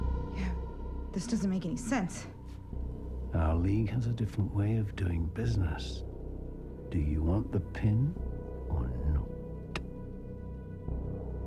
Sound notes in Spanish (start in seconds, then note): 3.1 En voz profunda